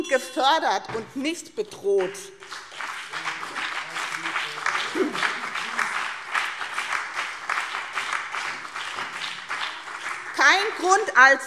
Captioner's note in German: Beifall BÜNDNIS 90/DIE GRÜNEN und CDU - Zurufe AfD und Freie Demokraten